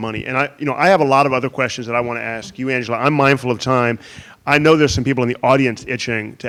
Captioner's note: none